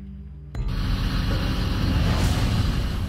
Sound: vechicle engine revving

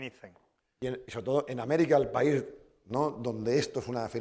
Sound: speaking spanish

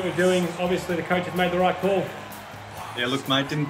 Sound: crowd cheering

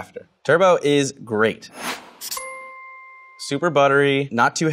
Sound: dinging

